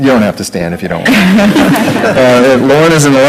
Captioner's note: group laughing